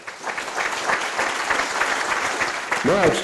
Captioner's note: audience applauding